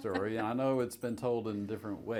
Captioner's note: laughs